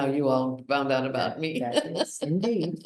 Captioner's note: laughs